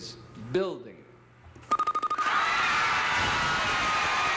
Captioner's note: cheers and applause